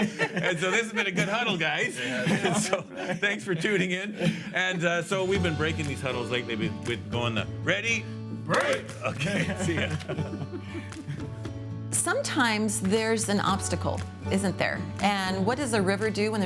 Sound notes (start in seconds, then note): 8.4 hands clap; 10.7 bright upbeat music